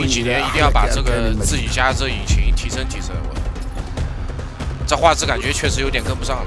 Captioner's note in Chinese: 泣不成声; 泣不成声